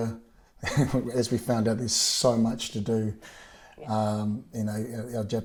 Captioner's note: chuckles